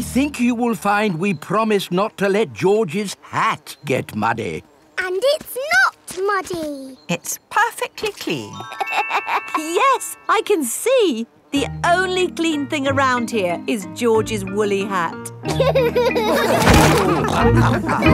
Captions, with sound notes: I think you will find we promised not to let George's hat get muddy. And it's not muddy! It's perfectly clean! (LAUGHS) Yes, I can see! The only clean thing around here is George's woolly hat! (ALL LAUGHING)